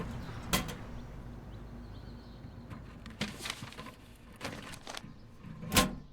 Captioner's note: mail rustles; mailbox clanks